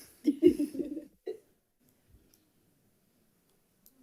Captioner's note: laughs